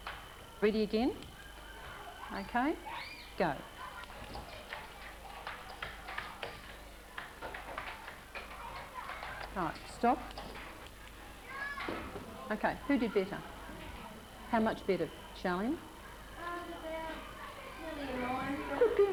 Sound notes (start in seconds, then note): 4.4 sound of typing